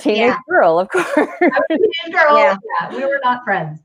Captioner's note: laughing